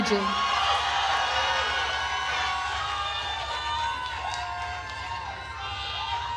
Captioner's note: attendees cheering and applauding